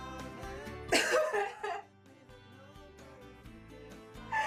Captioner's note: crying outburst